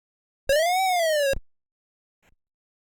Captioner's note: 8-bit computer sound effect